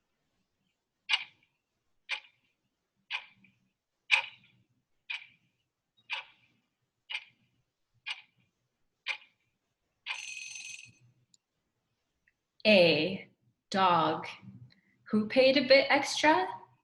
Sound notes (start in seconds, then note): 0.6 clock ticking; 10.1 bell rings